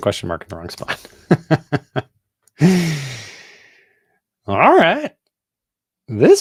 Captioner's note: chuckles